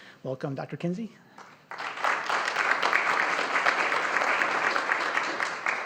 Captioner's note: audience applauding